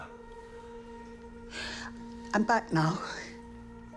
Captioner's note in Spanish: suspiros